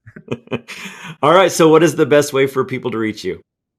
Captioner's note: laughs